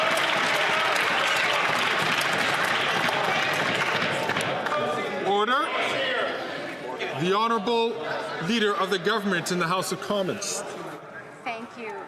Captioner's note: some Applause